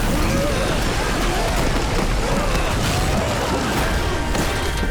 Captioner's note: screaming